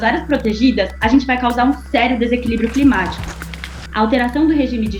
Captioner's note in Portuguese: gelo estalando